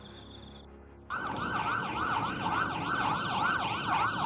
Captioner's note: sirens wailing